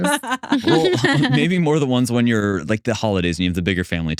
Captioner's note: laughing